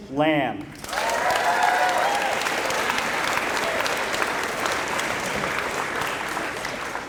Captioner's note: applause